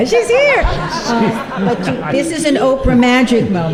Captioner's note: laughter